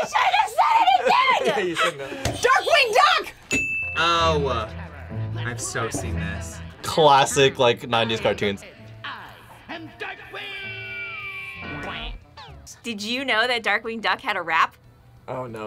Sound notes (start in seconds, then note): 3.4 bell rings